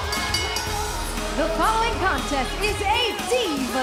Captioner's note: bell ringing